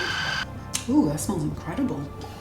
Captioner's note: whirring